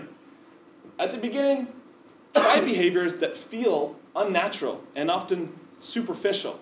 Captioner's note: cough